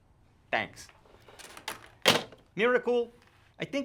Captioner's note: phone thuds